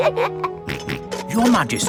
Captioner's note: both giggle; snorts